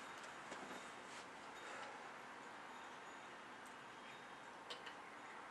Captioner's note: exhales deeply